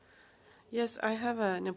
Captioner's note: speaking French